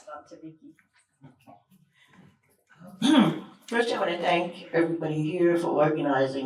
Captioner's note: snaps